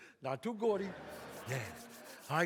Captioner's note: audience laughs